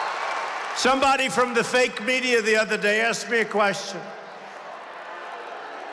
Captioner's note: applause